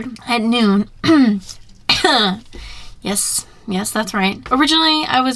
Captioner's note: ahem